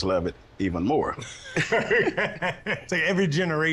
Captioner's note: laughter